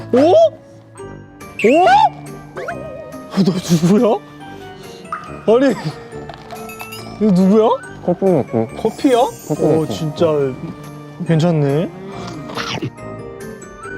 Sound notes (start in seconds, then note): 4.9 ahh